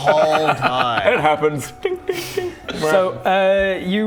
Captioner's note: tink tink tink